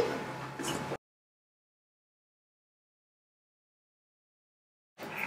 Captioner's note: silence